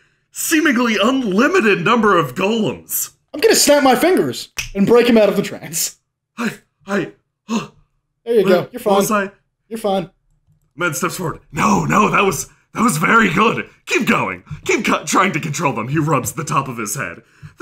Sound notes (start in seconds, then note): 7.6 huff